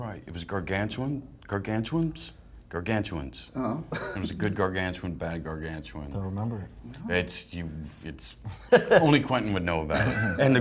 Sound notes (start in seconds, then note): 7.9 laughs